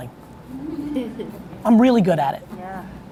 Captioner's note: laughing